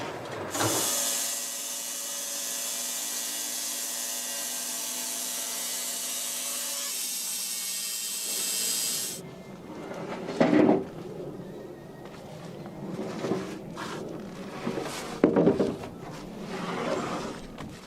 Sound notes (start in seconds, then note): 0.3 motor starts; 8.7 motor stops again